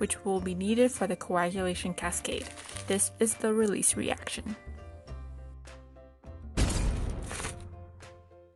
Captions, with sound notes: which will be needed for the coagulation cascade. [paper crinkles] This the release reaction. [crashing and paper crinkles]